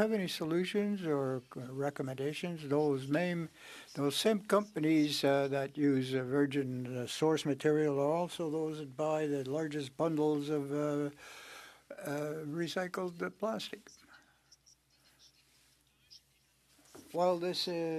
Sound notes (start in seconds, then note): 0.6 speaking French